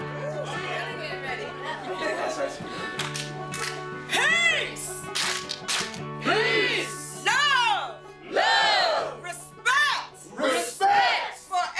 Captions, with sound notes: [clap, clap] Peace! [clap, clap] PEACE! Love! LOVE! Respect! RESPECT!